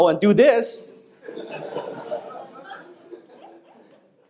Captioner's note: audience laughing